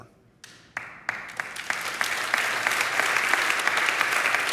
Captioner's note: audience applauds